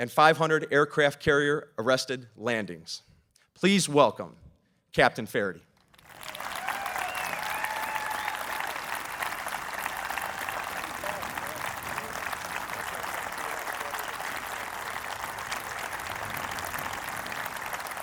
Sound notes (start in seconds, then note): 5.8 applause